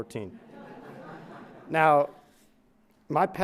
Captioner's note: crowd laughing